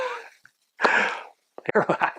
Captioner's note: laughs; laughs